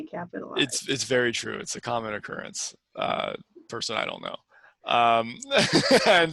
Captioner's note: laughs